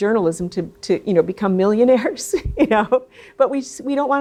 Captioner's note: laughs